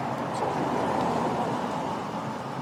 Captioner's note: vehicles driving